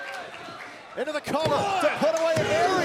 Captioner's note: crowd cheering